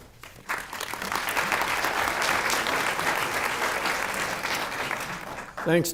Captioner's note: audience clapping